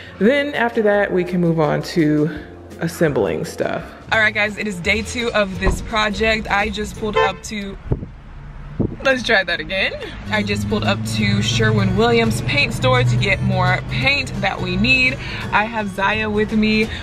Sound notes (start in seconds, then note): 7.9 horn honking